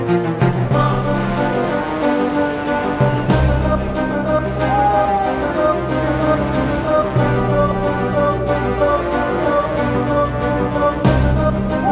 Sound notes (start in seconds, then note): 4.6 owl hooting; 8.2 dramatic music continues